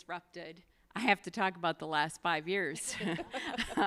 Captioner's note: laughs